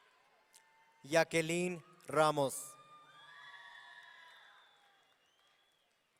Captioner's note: audience cheering